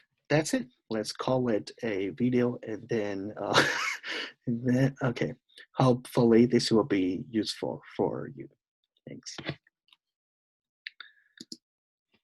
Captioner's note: laughs